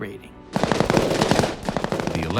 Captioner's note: gunshots